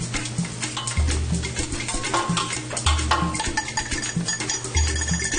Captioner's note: food sizzles